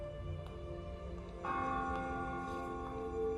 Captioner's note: church bell ringing